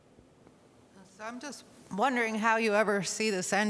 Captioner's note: nasal Voiced Woman